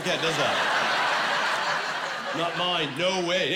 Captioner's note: laughing